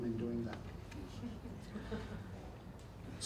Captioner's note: audience chuckles